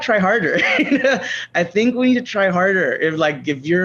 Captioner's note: laughs